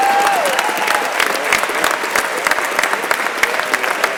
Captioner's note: crowd applauding